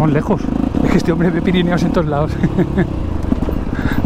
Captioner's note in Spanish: risas